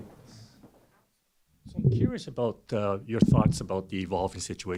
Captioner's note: voiceover